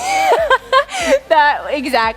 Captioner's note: laughs